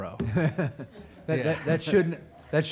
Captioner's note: laughing